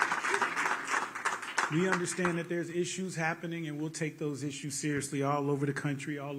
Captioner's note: cheers and applause